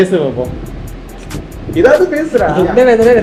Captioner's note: laughting